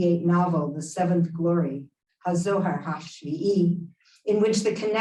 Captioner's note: Hebrew